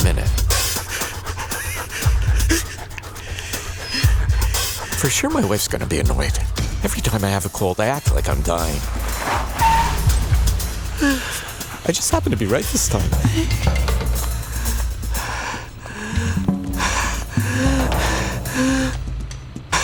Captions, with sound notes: (panting) For sure my wife's going to be annoyed. Every time I have a cold, I act like I'm dying. (tires screeching) I just happen to be right this time. (gasping)